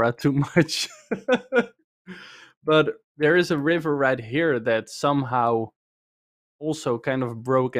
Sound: laughs

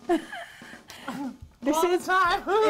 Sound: laughs

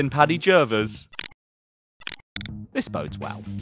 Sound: scramble sound effect

